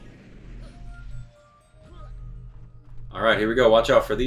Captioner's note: gaming sounds